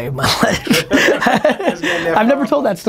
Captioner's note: laughing